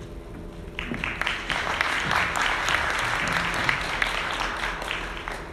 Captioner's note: audience clapping